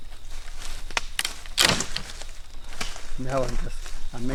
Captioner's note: branch cracks